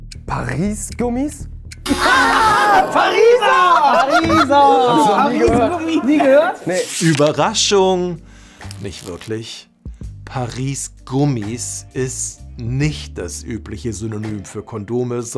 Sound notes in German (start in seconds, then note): 1.9 Gelächter